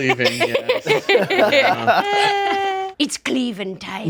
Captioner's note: group laughs